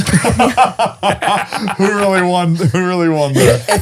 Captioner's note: all laughing